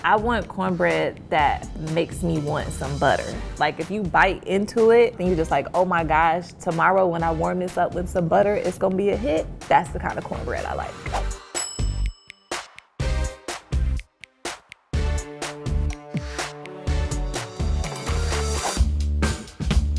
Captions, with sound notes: - I want cornbread that makes me want some butter. Like if you bite into it, then you're just like, oh my gosh. Tomorrow when I warm this up with some butter, it's going to be a hit. That's the kind of cornbread I like. (bell dings) (upbeat music)